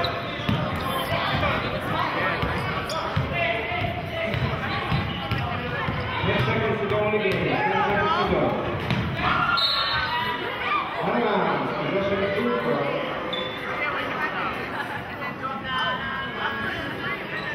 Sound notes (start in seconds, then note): 2.5 yelling; 9.5 whistling